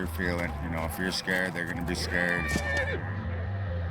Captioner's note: horse neighs